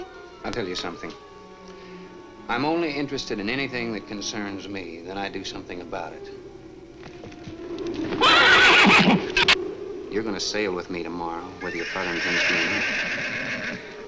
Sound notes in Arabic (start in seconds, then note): 7.6 صهيل الحصان